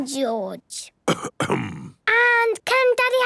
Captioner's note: coughs